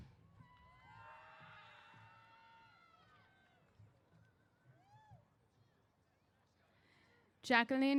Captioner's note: cheers